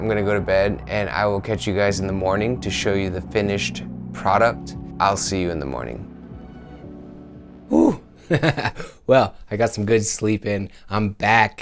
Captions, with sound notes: I'm gonna go to bed and I will catch you guys in the morning to show you the finished product. I'll see you in the morning. Woouh. (laugh) Well, I got some good sleep and I'm back.